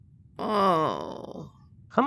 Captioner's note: Morgan groans